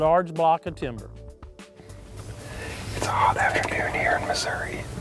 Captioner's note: whispering